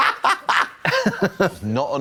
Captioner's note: Trixie tee-hees